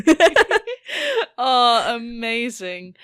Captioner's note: both laugh